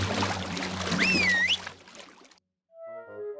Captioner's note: whistles